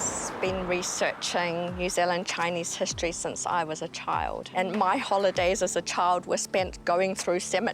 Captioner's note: laughs